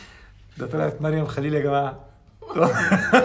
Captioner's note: laughs!